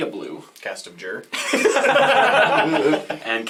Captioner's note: all laugh